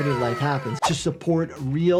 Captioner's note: audio whooshes